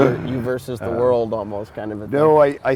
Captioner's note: laughs